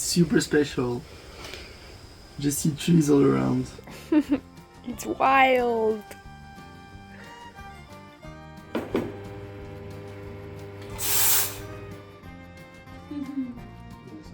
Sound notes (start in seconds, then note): 8.6 coffee machine buzzing